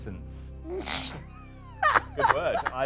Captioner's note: laughs